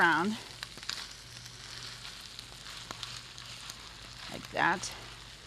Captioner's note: stirring